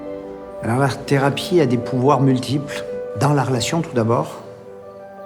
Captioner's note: speaking in foreign language